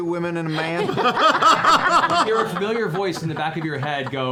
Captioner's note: laughter